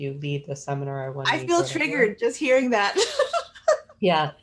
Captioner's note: laughing